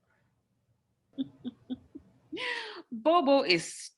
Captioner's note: laughs